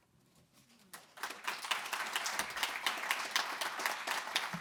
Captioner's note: audience clapping